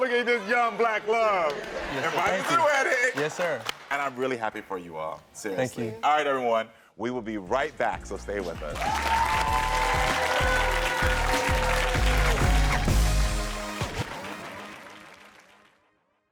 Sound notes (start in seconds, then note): 8.6 audience applaud; 11.3 lighthearted music